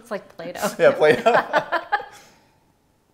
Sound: laughing

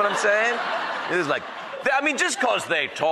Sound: audience laughing

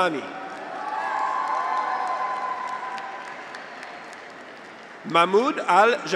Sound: graduates cheer; audience applauds

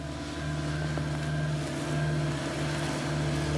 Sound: engine noise

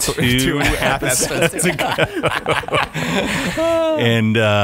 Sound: laughing

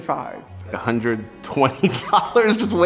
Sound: laughing

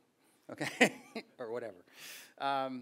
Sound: laughs

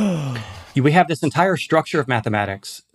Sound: gasps

